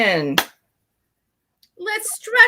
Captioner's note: clapping